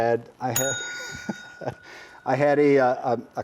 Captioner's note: bell dings; chuckles